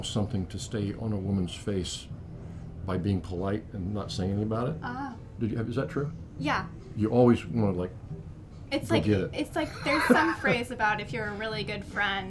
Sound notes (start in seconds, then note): 8.2 laughs; 11.2 laughs